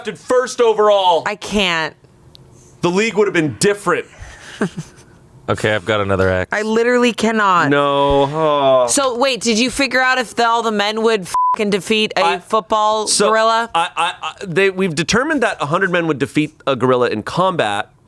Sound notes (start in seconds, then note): 11.3 beep